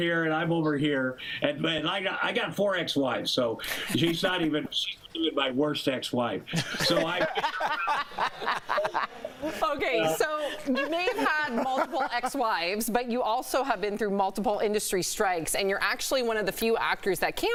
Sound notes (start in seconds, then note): 10.3 laughter